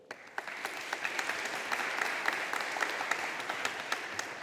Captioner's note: audience applauding